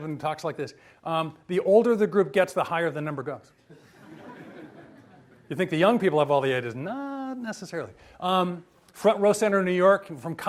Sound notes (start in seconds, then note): 3.7 audience laughs